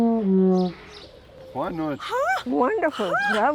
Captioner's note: speaks French